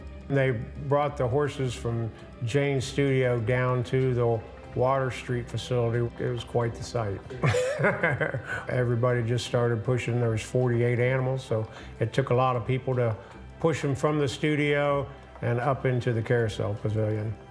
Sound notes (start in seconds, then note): 7.4 laughs